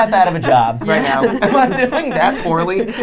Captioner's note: laughing